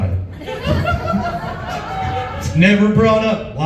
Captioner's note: laughs